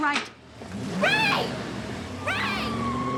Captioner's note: engine revving